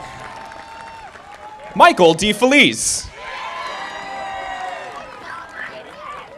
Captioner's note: audience applauding